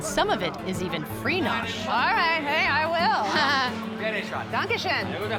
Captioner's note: laughs